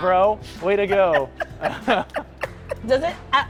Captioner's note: laughter